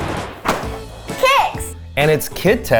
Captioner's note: animated explosion booming; cereal box thudding